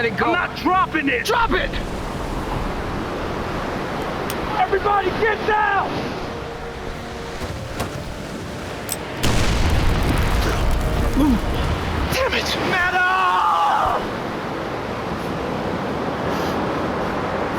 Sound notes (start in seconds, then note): 9.2 explosion